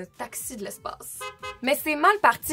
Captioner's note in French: coups de klaxon